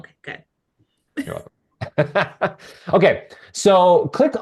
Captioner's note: laughing